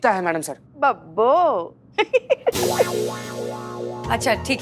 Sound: laughs

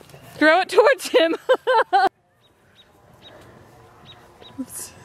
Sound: laughing

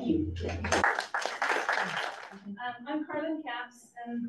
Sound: audience claps

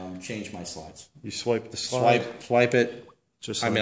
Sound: voiceover

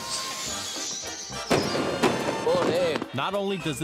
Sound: fireworks exploding

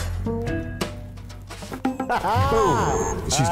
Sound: laughs

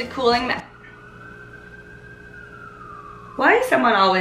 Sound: sirens wail

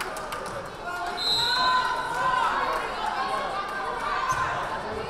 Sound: whistle blaring

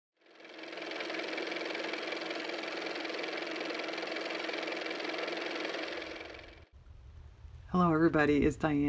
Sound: car motor

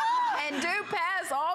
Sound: laughter

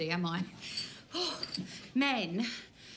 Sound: Desiree sighs

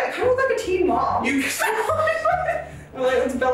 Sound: laughing

